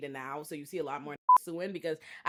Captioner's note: beep